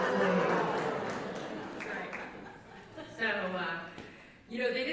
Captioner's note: laughter